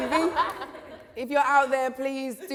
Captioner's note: laughter